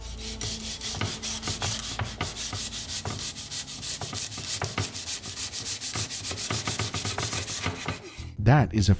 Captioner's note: scratching noise